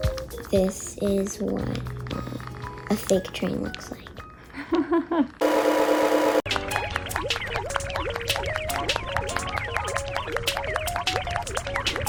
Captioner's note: female laughs, cartoon sounds